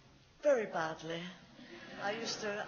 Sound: laughs

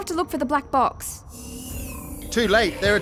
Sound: door opens, Grays enter

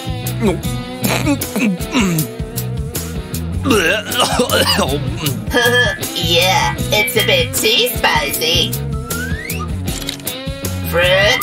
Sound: coughing

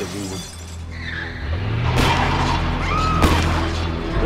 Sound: glass shattering; tires screech; gunshots, screaming

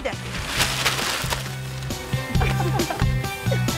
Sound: crumpling newspaper; laughter

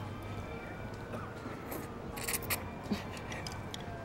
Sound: slurping

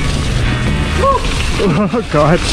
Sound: biker exclaims

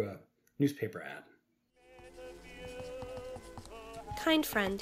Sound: music and sound of writing on paper

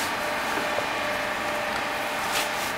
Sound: dull machine whirring

